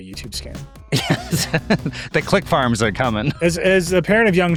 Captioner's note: laughs